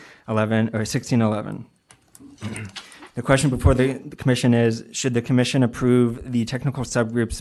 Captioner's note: clears throat